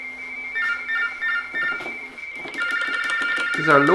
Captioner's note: RTTY Baudot tones